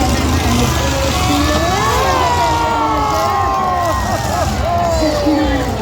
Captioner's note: crowd erupts after crash